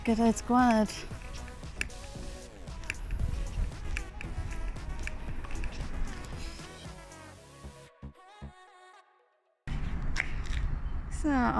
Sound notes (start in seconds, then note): 1.9 traffic + music; 9.6 traffic